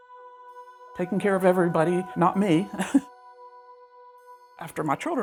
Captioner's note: chuckles